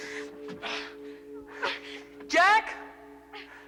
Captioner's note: Will and Holly grunting